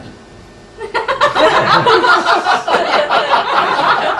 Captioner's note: laughing